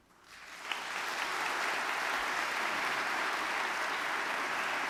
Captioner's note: audience clapping